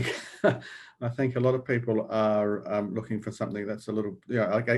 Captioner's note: laughs